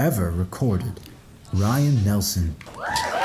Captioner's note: applause